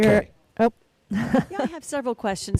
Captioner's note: woman laughs